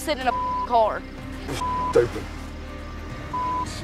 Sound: beep

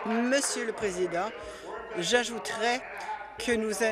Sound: applause

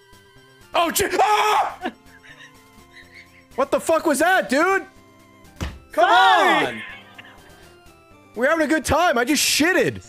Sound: screams

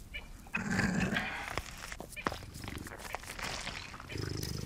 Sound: badger growling

